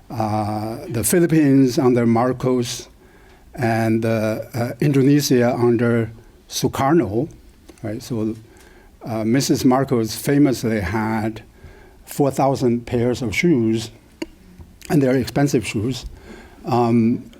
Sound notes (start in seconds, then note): none